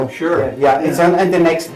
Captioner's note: non-english